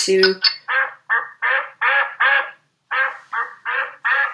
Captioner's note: duck quacking